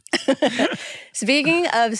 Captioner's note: laughs